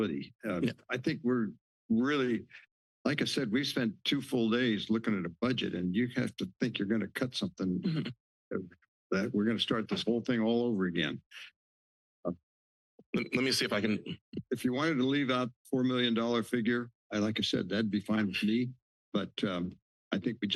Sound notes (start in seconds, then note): 9.1 laughs